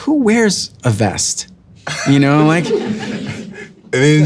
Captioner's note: audience laughing